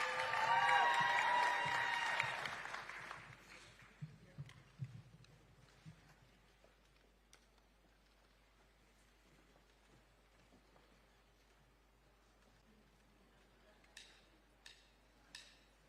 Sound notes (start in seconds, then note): 0.0 applause